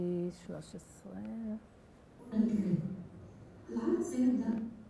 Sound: non-english speech

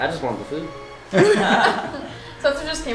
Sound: laughing

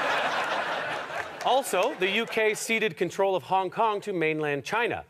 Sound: audience laughter

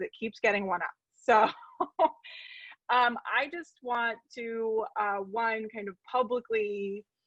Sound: laughing

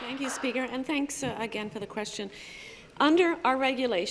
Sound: applause

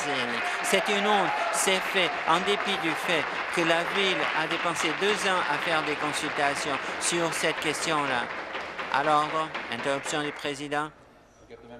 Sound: applause

